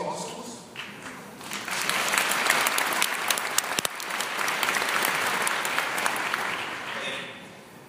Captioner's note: applause